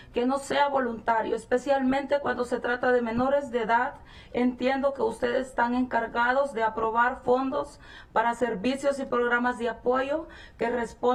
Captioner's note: speaking spanish